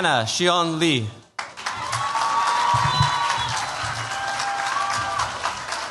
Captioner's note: cheers, applause